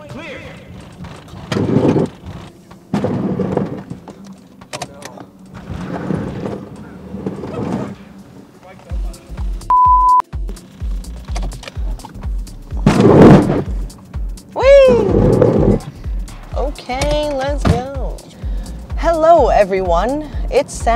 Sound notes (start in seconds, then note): 0.4 scraping frame rails; 12.8 crash